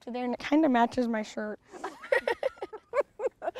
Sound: both laugh

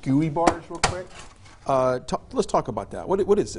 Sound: plastic scraping

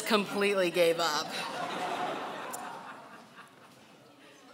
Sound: laughing

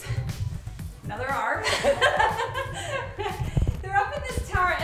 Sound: laughs

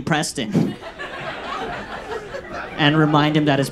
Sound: audience laughs

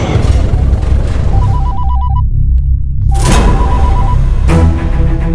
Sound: phone rings

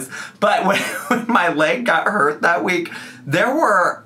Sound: laughs

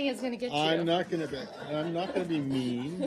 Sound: laughter

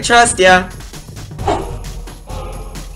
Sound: whooshes

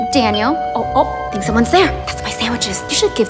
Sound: doorbell

